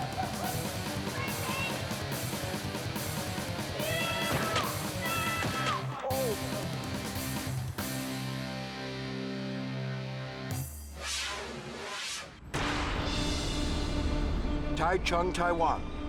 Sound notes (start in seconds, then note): 0.1 fast-paced rock music; 0.1 friend whooping; 11.4 fast whooshing; 12.5 dramatic orchestral music